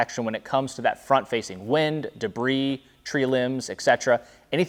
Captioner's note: none